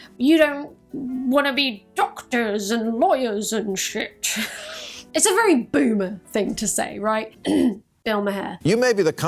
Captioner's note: ahem